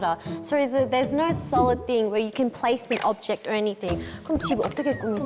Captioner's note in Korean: 흐음